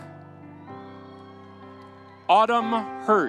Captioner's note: audience cheering